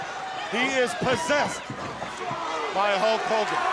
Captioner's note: crowd cheering